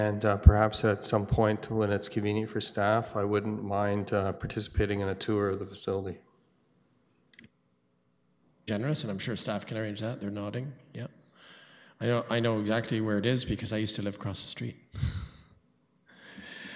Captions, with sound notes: And perhaps at some point, when it's convenient for staff, I wouldn't mind participating in a tour of the facility. [audio drop] >> --generous. And I'm sure staff can arrange that. They're nodding, yeah. I know exactly where it is because I used to live across the street.